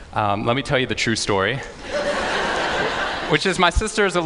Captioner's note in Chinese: 笑聲